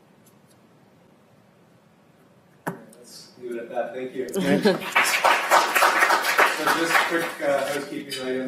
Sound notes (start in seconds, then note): 4.6 applause